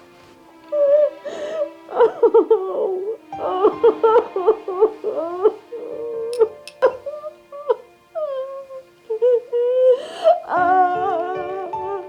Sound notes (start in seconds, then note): 0.7 crying